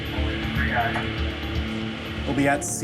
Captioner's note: crewman Over Loud Speaker